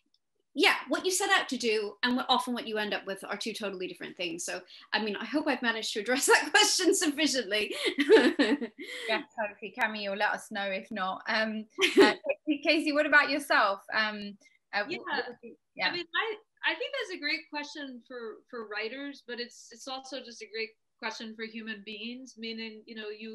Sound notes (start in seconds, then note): 6.7 laughing; 14.8 audio distorting